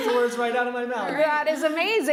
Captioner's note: laughing